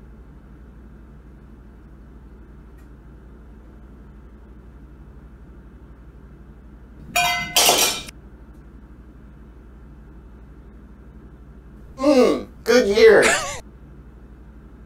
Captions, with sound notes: *Glass knocked over* Mm Good year